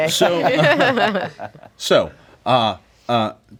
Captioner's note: laughing